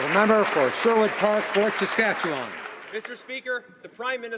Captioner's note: some Applause